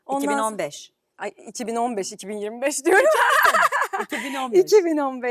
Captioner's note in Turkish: kahkaha